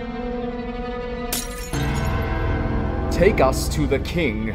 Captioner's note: glass breaking